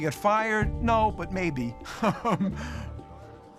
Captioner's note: chuckles